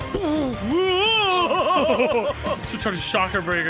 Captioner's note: warbles; laughs